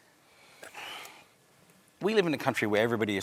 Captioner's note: sighs